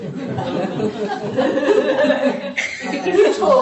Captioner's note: laughter